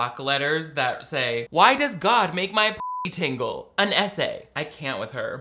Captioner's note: beep